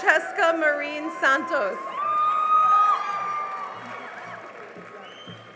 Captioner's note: cheering and applause